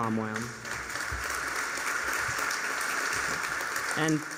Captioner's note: applause